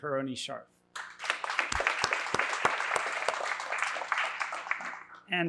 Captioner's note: applause